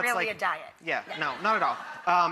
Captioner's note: audience laughs